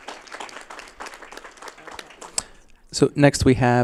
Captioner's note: applause